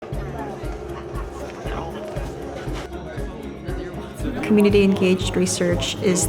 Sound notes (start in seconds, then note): 0.0 lively music; 0.0 people chattering